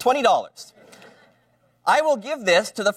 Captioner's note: laughter